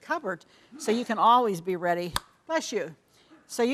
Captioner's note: man sneezes